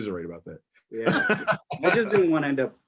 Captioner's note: laughs